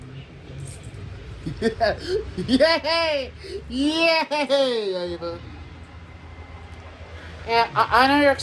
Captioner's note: laughs and giggles